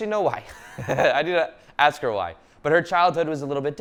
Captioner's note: laughing loudly